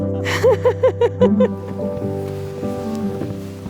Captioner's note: laughing